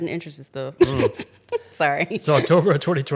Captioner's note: laughing